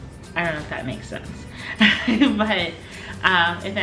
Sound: laughs

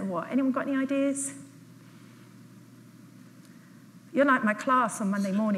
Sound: audience is quiet

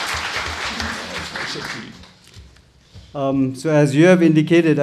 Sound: murmurs

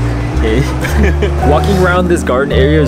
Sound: laughing

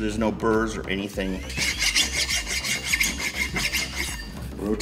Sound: metal lightly scraping metal

